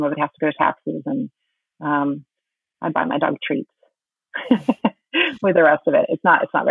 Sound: laughing

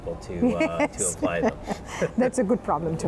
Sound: laughing

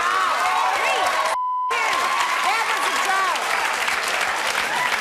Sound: applause; beep; clapping

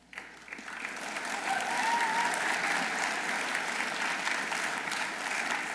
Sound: audience applauding

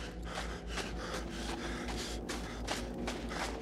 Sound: person breathing

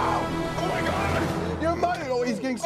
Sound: screaming; screaming

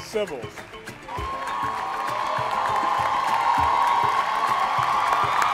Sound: applauding and cheering

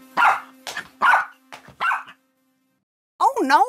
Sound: Doofie barks

